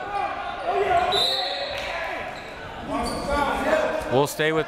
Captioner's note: whistle